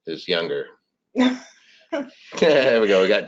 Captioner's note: laughs